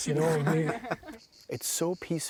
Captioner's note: all laughing; crickets buzzing